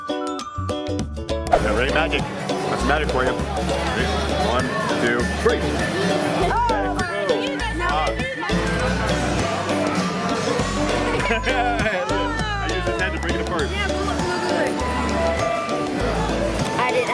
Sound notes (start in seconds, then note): 11.1 family laughs